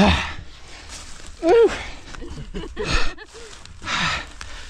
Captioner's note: laughing